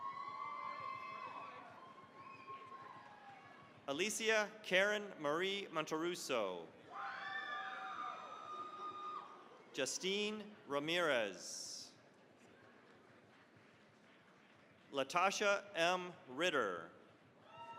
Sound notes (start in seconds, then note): 0.0 cheering, applause; 6.8 cheering, applause; 12.4 applause